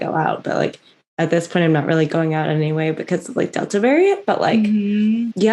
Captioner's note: mhmm